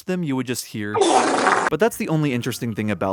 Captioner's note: wet fart